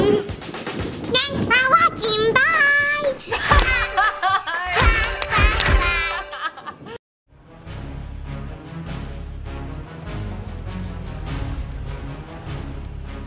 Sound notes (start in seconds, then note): 3.3 magical sounds; 6.1 laughter